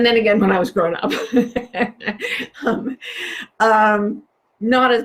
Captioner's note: laughs